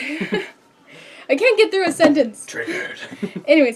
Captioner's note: laughs; laughs